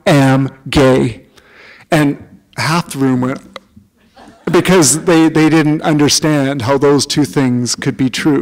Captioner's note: laughter